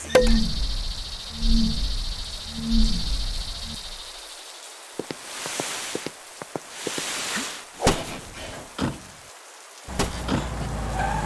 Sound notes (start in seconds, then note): 0.1 pop; 4.9 footsteps, dragging; 7.8 slam; 8.8 car door closing